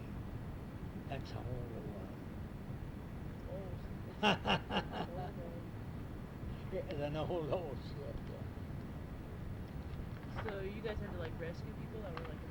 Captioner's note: laughs